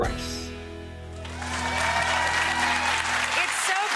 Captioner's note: audience applauds and cheers